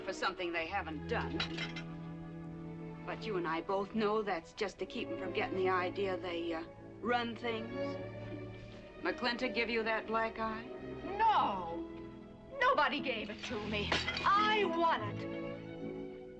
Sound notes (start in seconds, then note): none